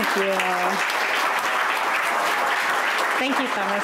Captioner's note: applause